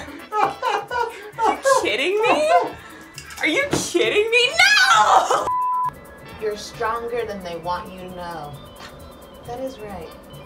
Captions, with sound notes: Are you kidding me? Are you kidding me? No! (beep tone) You're stronger than they want you to know. That is right.